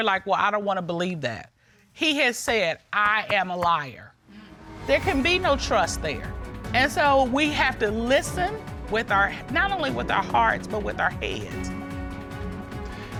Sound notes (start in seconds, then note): none